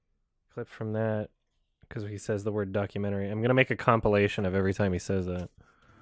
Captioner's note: under his breath; normal speaking voice